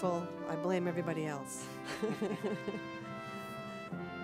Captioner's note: laughter